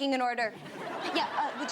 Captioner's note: audience laughs